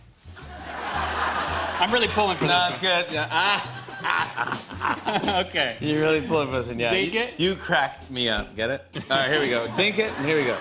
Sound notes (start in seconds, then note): 0.4 laughter